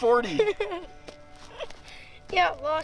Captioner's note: laughs